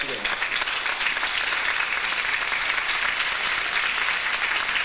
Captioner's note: audience applauds